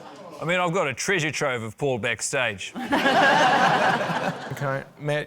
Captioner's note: laughter